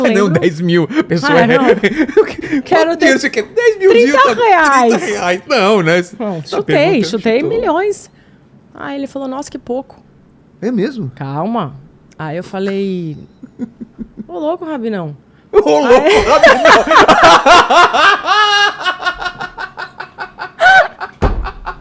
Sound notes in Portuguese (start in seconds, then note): 1.4 risadas; 15.6 risadas